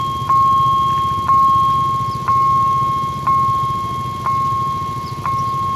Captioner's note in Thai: ติ๊งๆๆๆ